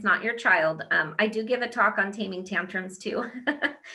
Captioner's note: laughs